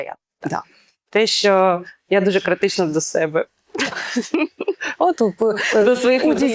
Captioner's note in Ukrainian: сміх